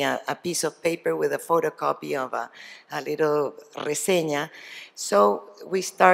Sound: spanish

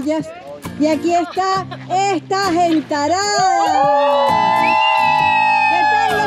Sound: crowd noises

